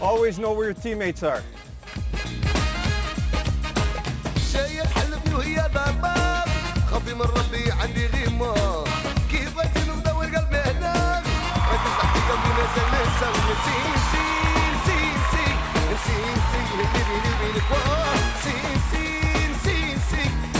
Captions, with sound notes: Always know where your teammates are. (Middle Eastern music) (cheering)